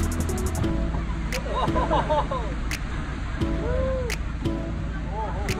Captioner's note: people laughing